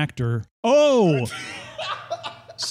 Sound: laughs

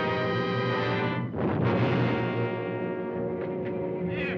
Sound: loud thud

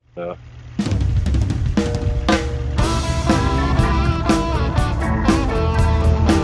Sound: truck engine revving; upbeat instrumental music

